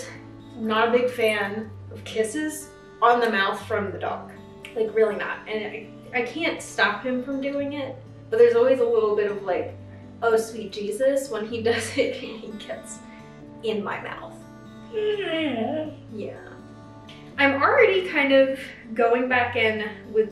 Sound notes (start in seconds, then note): 15.0 Benji whining